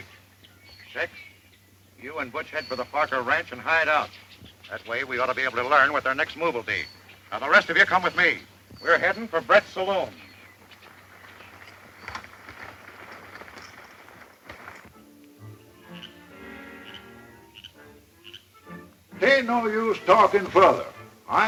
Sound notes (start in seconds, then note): 14.8 soft music; 15.3 frogs croaking